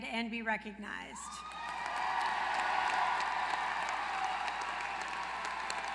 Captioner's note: applause